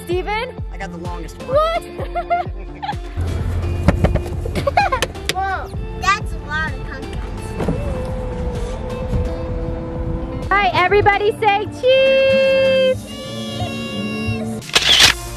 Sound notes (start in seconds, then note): 1.6 laughs; 3.4 laughing; 7.4 car door whirs